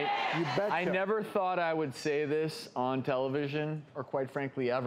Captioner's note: makes ahhh sounds